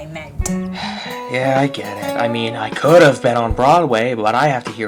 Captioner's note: sigh